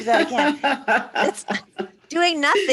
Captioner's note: laughter